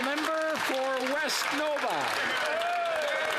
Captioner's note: applause